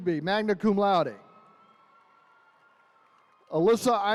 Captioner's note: attendees cheering